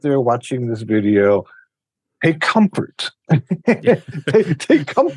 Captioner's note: laughs